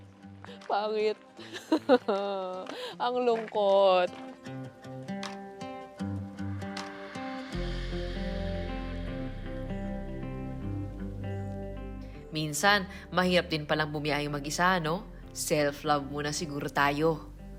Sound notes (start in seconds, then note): 1.4 laughs